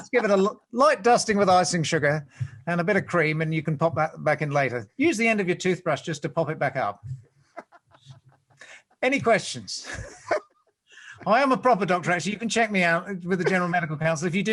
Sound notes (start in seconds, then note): 7.6 laughs